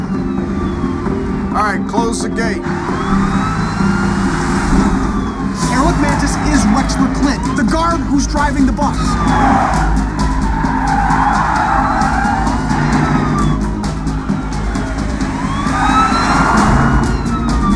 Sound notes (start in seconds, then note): 12.4 siren wailing